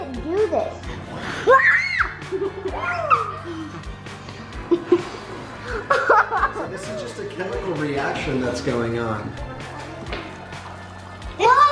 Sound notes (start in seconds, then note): 1.4 child screams; 3.0 child laughs